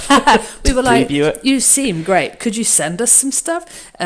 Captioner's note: laughs